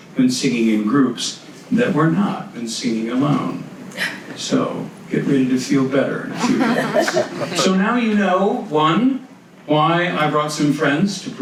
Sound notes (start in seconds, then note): 6.3 audience laughs